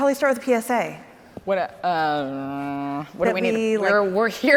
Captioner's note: grumbles